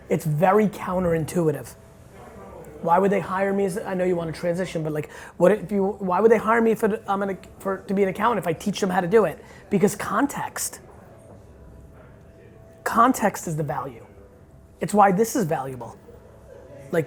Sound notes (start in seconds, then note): none